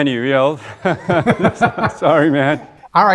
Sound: laughing

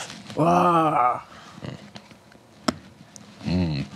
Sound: grunts

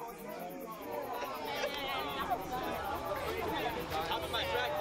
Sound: guests chattering

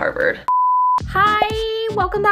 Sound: beep

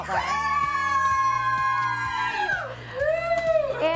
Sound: cheering

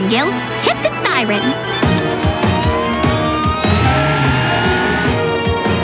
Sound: sirens blaring

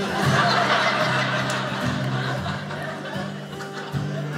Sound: audience laughing; guitar playing

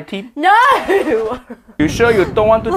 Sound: laughs

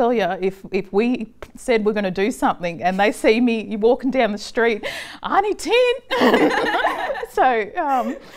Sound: laughter

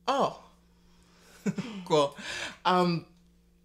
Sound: laughing

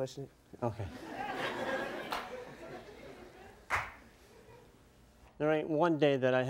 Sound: audience laughs

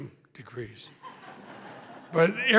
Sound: laughter

